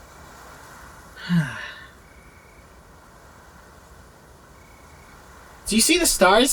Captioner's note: relaxed sigh